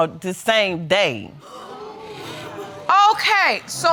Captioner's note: audience gasping